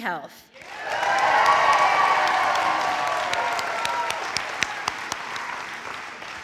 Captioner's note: audience applauding; audience cheering